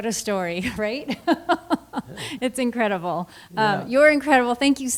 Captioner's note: laughs